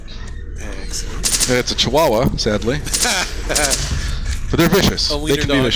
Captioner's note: laughs